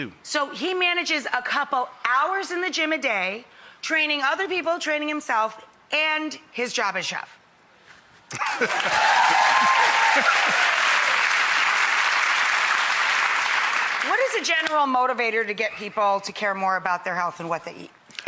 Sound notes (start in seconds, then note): 8.3 laughs; 8.4 audience applause